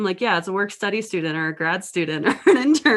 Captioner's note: laughs